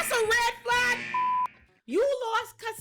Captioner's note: beep